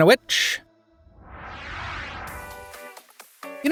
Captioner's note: whooshing; upbeat music